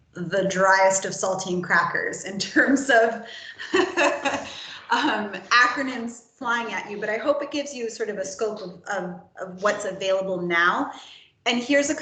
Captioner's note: laughs